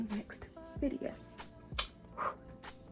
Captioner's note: blows kiss